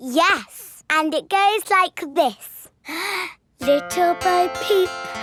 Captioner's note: inhales